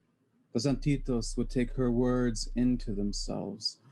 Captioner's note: foreign language spoken